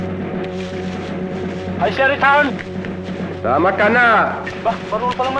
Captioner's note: non-english speech